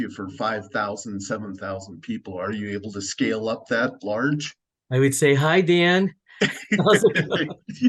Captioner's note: laughter